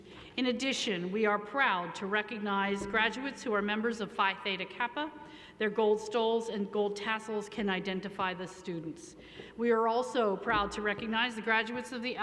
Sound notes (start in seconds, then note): none